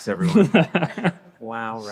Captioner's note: laughing